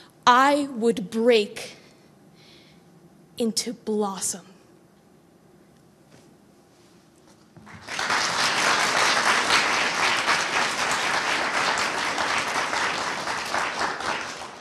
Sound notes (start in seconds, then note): 7.6 audience applauding